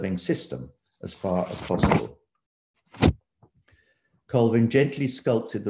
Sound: paper shuffling

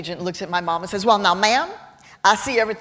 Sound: with texan accent

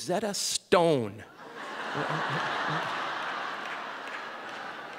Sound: audience laughing

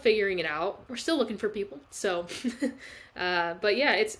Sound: chuckles

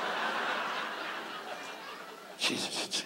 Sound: audience laughs

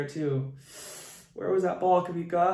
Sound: hisses

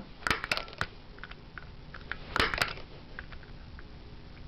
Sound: clicks

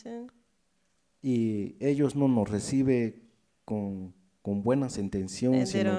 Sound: speaks in foreign language

